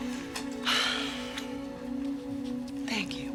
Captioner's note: Nora sighs